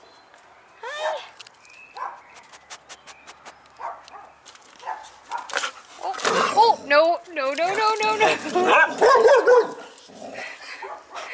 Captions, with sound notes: Hi! [Growling] Oh! No no no no no! [Dogs barking]